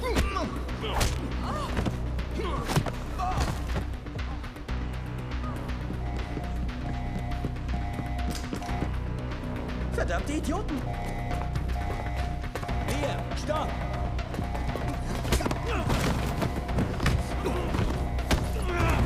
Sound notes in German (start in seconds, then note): 5.6 alarm plärrt los